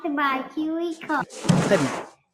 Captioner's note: chuckling